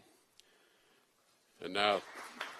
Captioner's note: applause